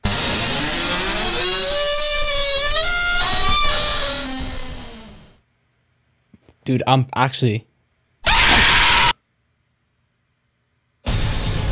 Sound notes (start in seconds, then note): 0.0 hinges creaking loudly; 8.2 screaming